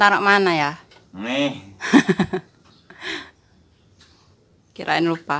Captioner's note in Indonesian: tertawa